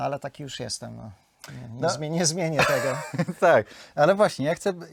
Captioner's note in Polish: śmiech